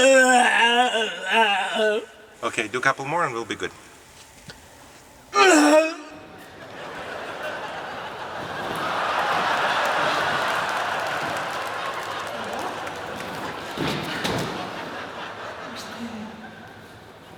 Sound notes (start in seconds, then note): 5.3 groaning; 8.6 laughs